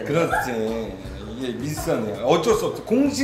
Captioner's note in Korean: 듣다가 소리 지름